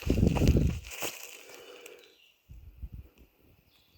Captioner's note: birds chirping; leaves crunching